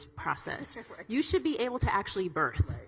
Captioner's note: laughs